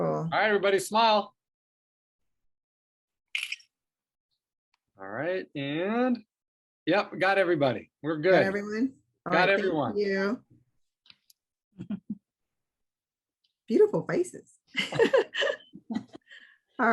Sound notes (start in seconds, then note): 3.3 camera clicks; 14.8 laughs